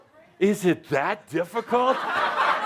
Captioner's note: lots of laughter